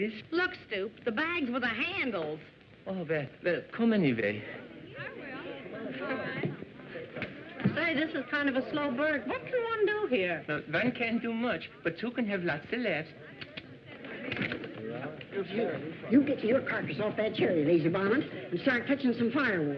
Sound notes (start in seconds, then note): 4.4 chatter